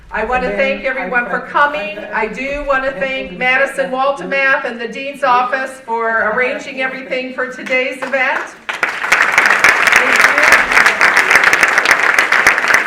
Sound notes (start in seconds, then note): 8.0 audience applauding